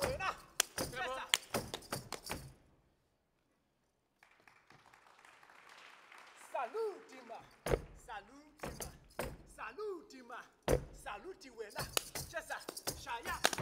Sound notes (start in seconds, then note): 0.0 speaking language other than English; 0.0 drum beating; 4.1 audience applauding; 6.6 speaking language other than English; 10.6 speaking language other than English; 10.7 drum beating